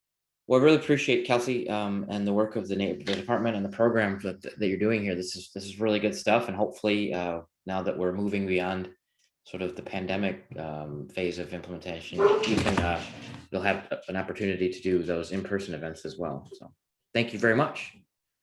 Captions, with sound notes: Well I really appreciate it, Kelsey, and the work of the department and the program that you're doing here, this is really good stuff. And hopefully now that we're moving beyond sort of the pandemic phase of implementation, excuse me, (dog barks) you'll have an opportunity to do those in-person events as well. So, thank you very much!